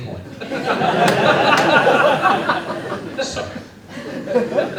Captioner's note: laughter